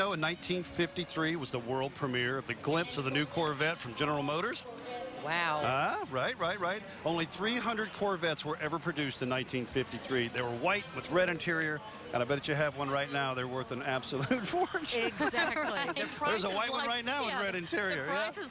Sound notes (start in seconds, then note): 15.0 laughing